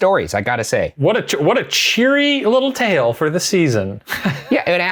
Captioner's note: laughs